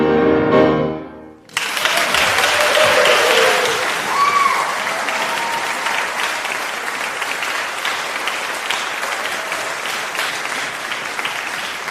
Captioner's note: applause